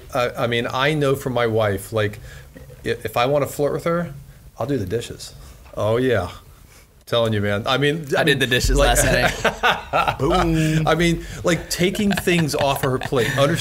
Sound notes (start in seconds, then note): 8.7 laughs